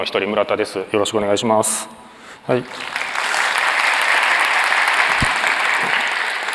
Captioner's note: applause